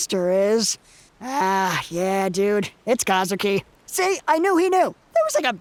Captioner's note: sighs